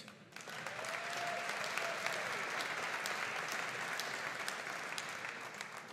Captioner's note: audience cheering and applauding